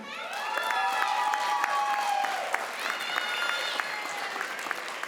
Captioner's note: crowd applauds